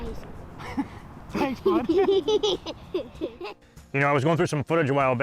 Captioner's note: children giggling